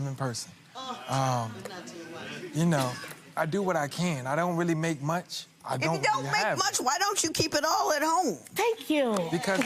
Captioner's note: gallery mumbles